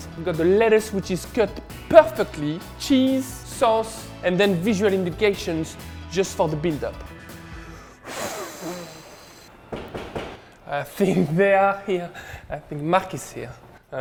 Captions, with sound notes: I've got the lettuce, which is cut perfectly, cheese, sauce, and then visual indications just for the build up. (exhaling) (knocking) I think they are here. I think Mark is here.